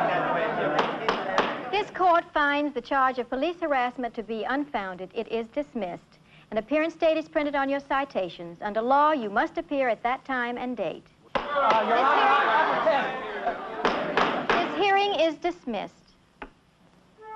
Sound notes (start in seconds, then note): 0.3 shouting; 2.2 gavel banging; 13.8 gavel banging; 13.8 shouting